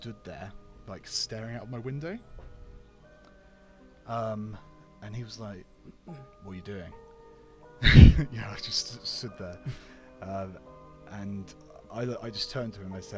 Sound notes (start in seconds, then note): 7.8 laughs